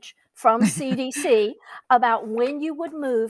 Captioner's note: laughs